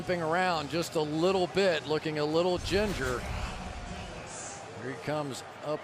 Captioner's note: crowd cheering